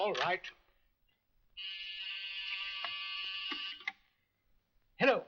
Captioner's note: phone buzzes